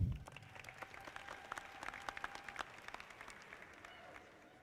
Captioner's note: audience clapping